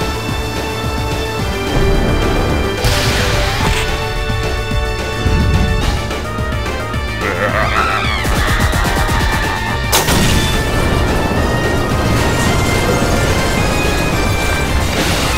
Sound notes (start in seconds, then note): 7.1 evil laughter